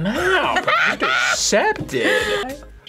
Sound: laughs

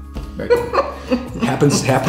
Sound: laughs

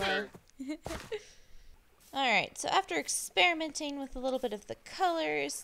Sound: giggles

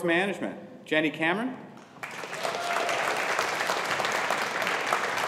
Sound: audience applauding

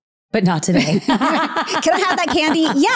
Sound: laughing

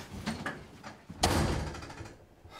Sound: slams door

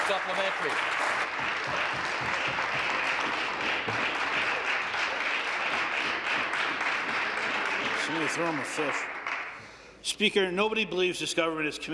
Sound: applause

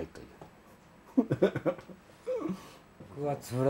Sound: giggles in japanese

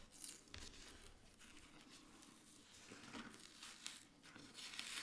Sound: paper layer crunching

